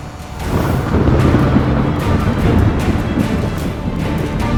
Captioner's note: thunder rumbles